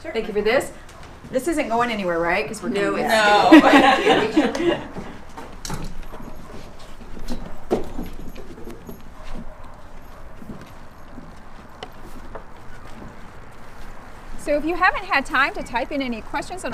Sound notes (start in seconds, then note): 2.9 laughs; 5.5 footsteps tapping